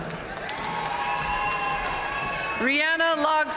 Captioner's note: audience cheering and applauding